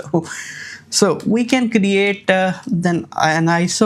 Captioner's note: chuckles